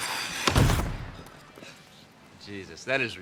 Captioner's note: woman thuds